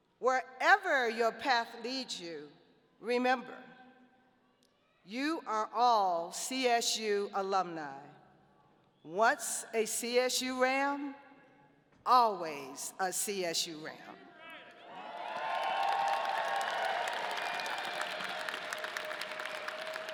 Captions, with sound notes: Wherever your path leads you, remember you are all CSU alumni. Once a CSU Ram, always a CSU Ram. (audience applauding)